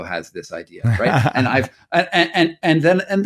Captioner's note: laughing